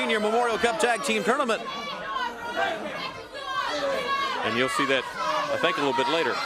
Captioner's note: crowd chatter